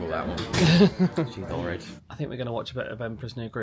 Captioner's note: chuckles